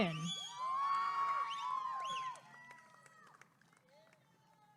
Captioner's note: applause and cheering